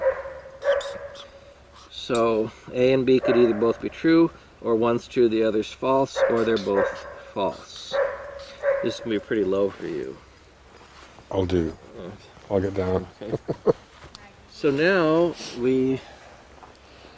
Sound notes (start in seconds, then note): 13.2 laughing